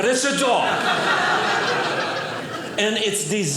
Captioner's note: audience laughing